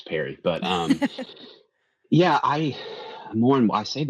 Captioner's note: laughs